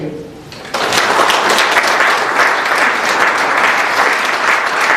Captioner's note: applause